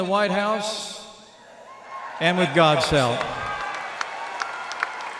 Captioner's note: applause